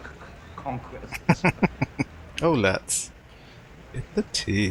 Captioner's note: chuckling